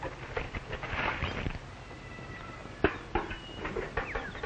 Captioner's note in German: Trümmer klappern